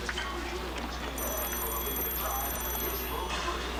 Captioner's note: phone rings